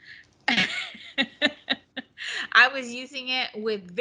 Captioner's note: laughing